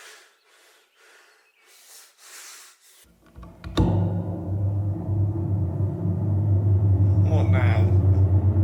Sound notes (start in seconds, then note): 3.3 electric buzzing